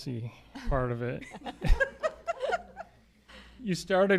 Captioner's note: laughter